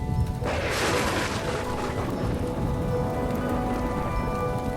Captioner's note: gentle orchestral music; thunder crashing